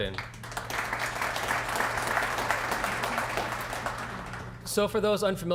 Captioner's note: applause